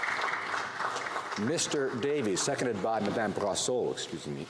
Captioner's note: some Applause